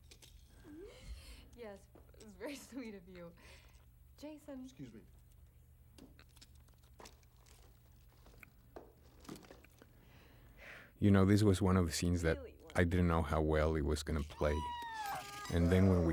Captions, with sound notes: YES, BUT IT WAS VERY SWEET OF YOU. JASON-- EXCUSE ME. THANK YOU. THAT'S WHAT I REALLY WANTED. [SCREECHES]